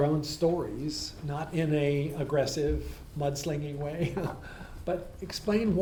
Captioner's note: laughs